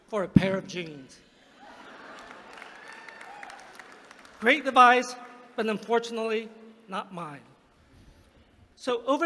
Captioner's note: laughter; applause